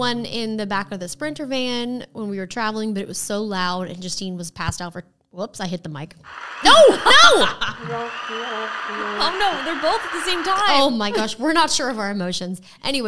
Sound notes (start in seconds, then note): 6.2 mocking sound; 6.2 crowd applauding